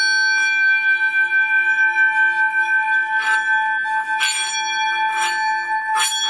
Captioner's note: ringing; clear resonating ringing